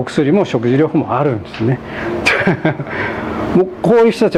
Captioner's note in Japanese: 笑い